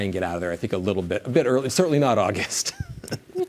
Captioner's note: laughs